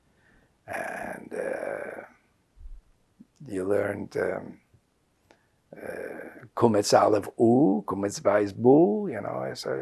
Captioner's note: non-english